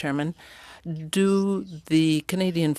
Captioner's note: speaking French